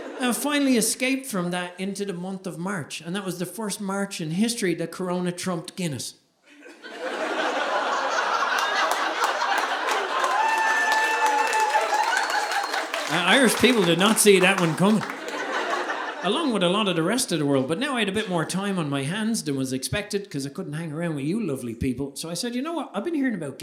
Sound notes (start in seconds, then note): 7.1 audience laughing